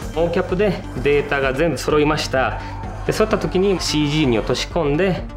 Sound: speaks Japanese

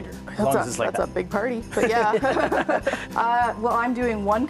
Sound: laughter

